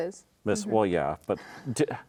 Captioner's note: laughing